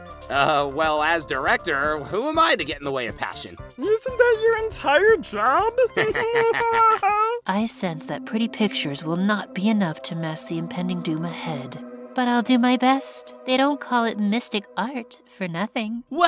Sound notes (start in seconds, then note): 5.8 nickel & goo laugh